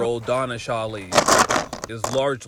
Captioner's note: objects clattering